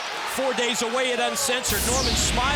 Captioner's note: crowd chatter